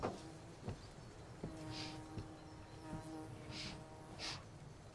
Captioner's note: fly buzzing; Claire sniffing